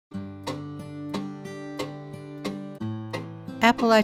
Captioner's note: guitar music; clock ticking